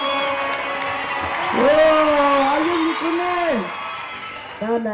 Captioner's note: cheers and applause